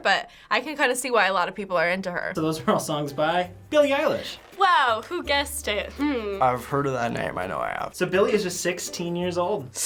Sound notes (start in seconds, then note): 4.7 sarcastic